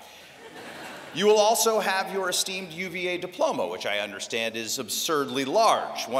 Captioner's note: laughter